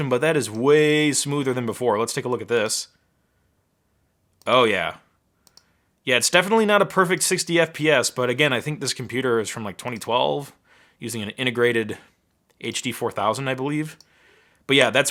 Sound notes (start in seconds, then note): 5.4 mouse clicking